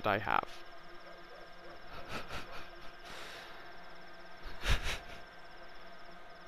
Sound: light laughing

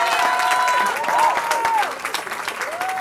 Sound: cheering

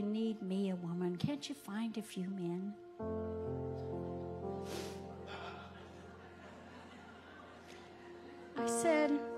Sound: audience laughing

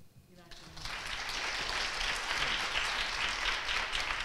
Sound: audience applauds

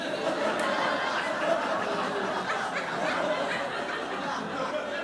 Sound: crowd laughs

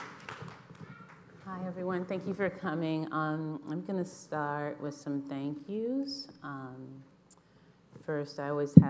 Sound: applause

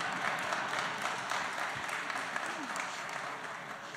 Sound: laughing; applause

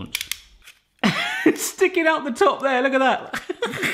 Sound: laughs

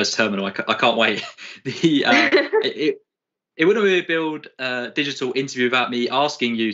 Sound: laughter

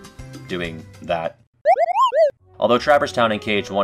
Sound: Moogle noise

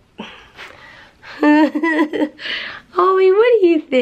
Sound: giggling

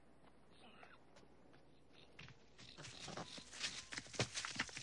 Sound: Kiog snorting

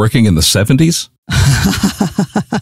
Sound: chuckles

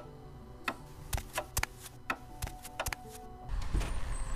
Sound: footsteps

